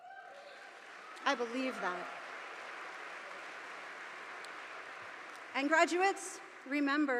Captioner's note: audience applauding